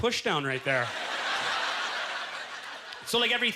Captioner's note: audience laughter